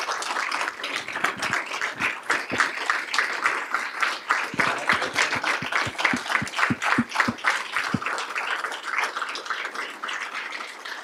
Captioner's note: applause